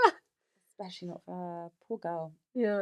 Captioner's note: laughs